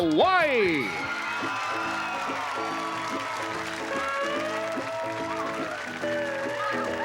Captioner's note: cheering and applause